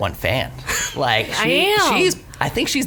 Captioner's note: laughs